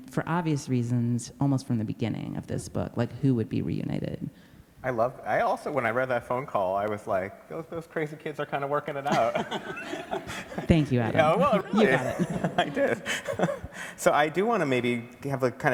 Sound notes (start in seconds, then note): 9.0 everybody laughs; 12.4 laughs